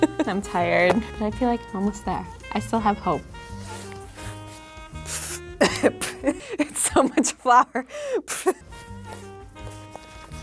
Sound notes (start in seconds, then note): 0.0 laughs; 5.3 coughing and spitting; 5.6 laughs